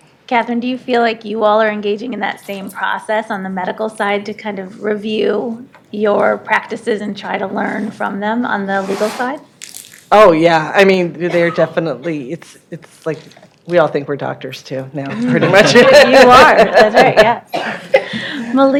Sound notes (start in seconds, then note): 15.1 laughs